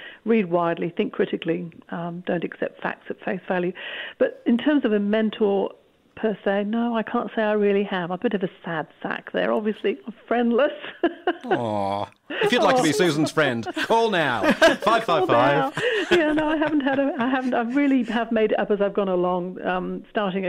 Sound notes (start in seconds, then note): 10.5 laughs; 12.3 laughter